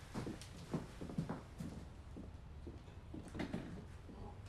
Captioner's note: shoes clacking